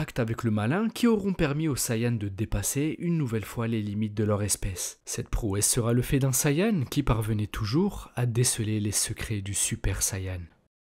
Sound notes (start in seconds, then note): none